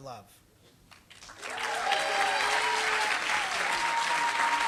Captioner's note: applause